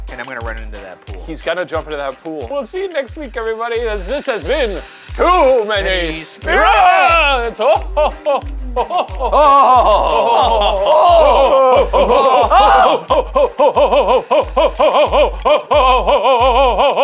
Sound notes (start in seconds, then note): 7.6 group chuckling; 13.0 ho, ho, ho'ing rapidly